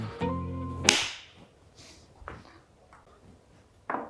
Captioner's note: claps